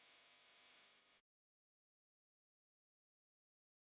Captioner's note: none